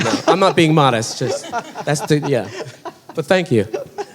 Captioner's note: laughing